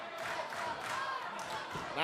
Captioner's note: fans chanting